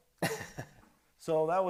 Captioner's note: chuckles